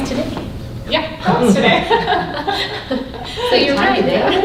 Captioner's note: laughing